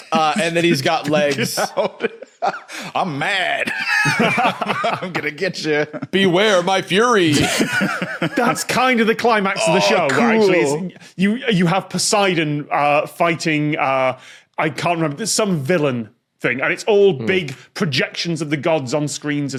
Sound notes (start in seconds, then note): 0.0 giggles profusely; 3.8 group laughing; 7.3 laughs